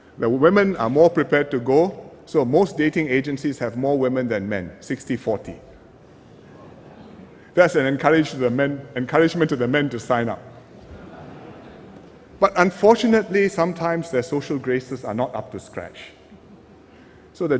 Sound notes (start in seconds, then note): 10.6 laughter